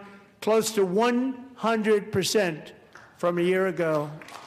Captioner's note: applause